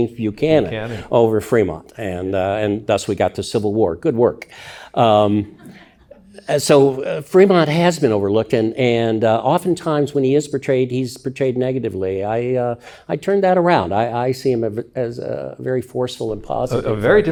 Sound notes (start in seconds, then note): 5.4 audience chuckling